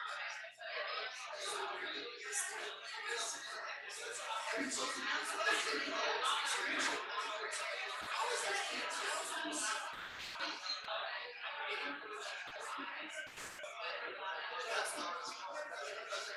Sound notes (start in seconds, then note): 5.7 people chattering indistinctly